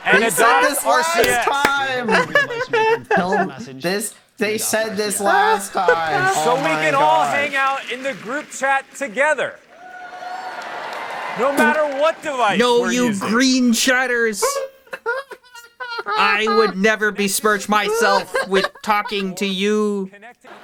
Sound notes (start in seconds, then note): 3.9 continues to laughs in standards